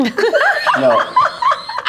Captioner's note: everyone laughing